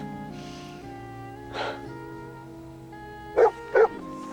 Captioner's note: sighs